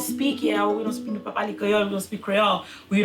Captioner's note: speaking in Creole